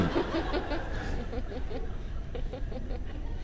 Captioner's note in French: rire